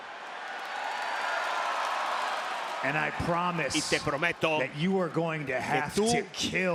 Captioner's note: applause